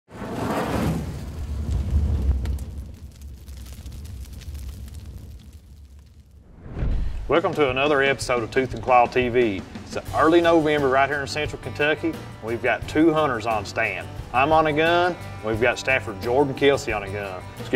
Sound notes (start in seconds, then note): 0.1 whooshing; 2.3 flame burning